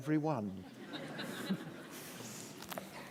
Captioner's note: laughter